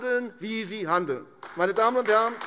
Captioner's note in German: Beifall AfD